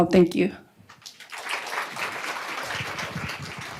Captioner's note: applause